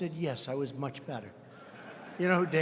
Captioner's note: laughter